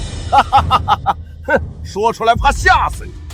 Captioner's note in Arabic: يضحك ساخرًا